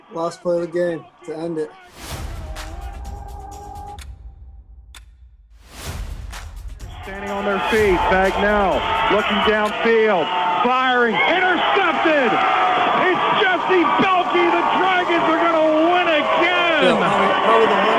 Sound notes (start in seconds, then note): 4.9 clock ticking